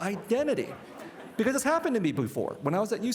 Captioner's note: participants laughing